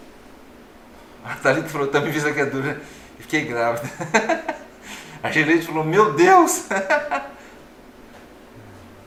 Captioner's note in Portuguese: risos